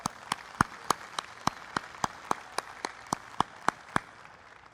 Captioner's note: applause